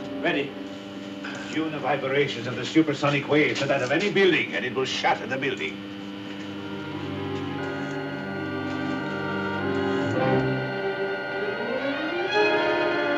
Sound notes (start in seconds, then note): 1.3 device humming; 6.5 suspenseful music; 8.2 high pitched whini